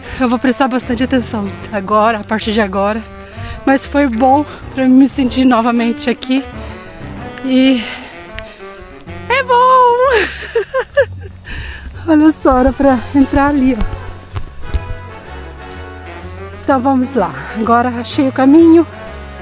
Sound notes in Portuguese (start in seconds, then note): 10.1 risadas